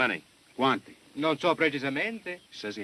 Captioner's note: speaking italian